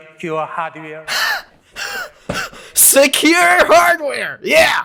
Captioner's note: scoffs in Knox